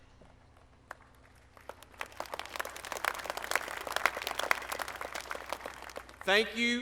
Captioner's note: applause